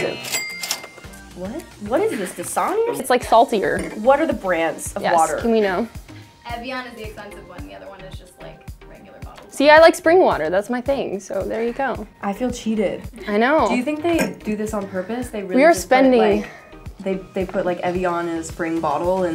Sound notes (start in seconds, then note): 0.0 buzzer; 0.0 cash register